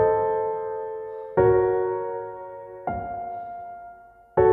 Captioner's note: Andrew exhales